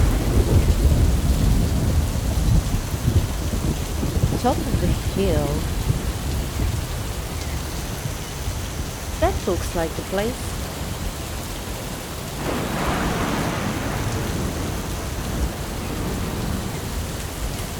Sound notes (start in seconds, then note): 0.2 thunder Rumbling; 12.3 loud Lightning Cracks